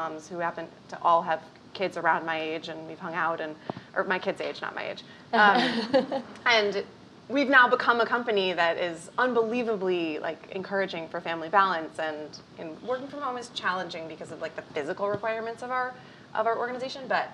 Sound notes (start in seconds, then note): 5.5 laughing